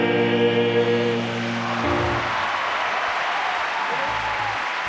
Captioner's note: applause